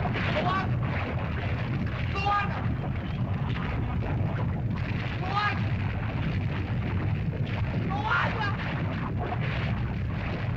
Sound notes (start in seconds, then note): 3.4 lava bubbles & flows; 6.3 lava bubbles & flows; 9.4 lava bubbles & flows